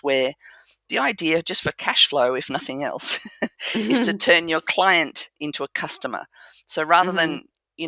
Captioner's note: laugh